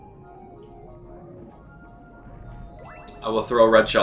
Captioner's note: gaming sounds